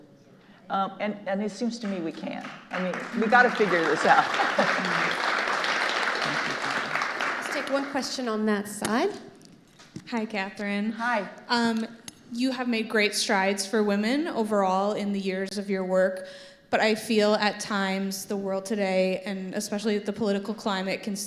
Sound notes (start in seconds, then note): 4.9 audience applauding